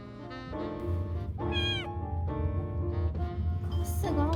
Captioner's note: meow!